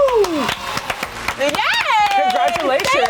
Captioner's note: clapping